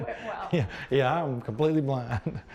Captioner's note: laughs